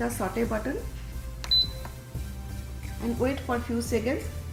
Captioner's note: beep